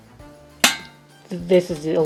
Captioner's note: clank